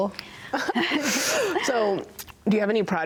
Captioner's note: both laugh